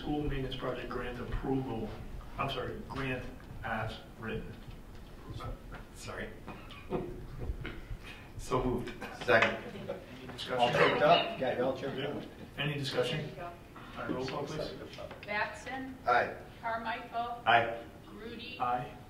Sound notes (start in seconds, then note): 6.4 laughing